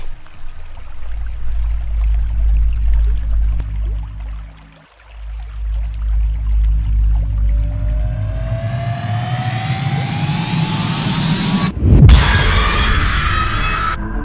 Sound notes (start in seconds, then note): 11.8 whoosh; 12.8 haunting music